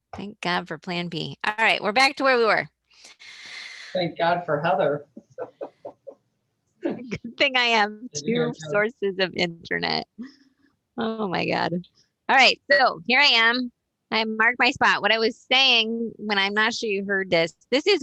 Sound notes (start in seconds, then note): 5.2 laughs